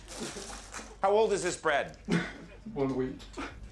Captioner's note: chuckles